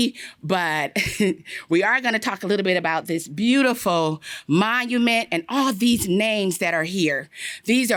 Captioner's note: laughter